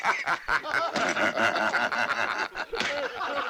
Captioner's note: all laughing